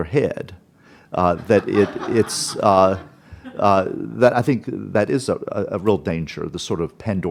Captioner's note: laughter